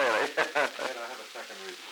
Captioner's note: laughter